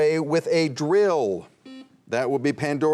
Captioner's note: buzzer buzzing